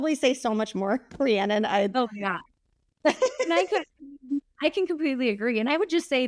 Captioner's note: laughing